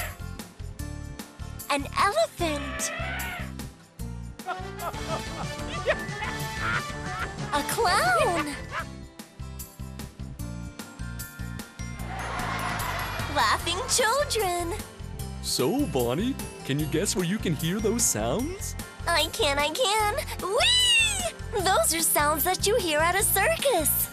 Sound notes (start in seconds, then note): 4.4 laughs; 11.4 children laughing